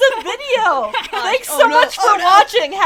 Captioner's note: general laughter; laughter